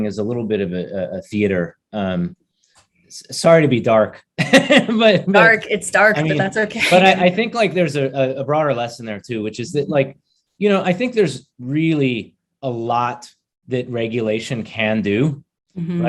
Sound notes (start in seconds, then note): 4.2 chuckles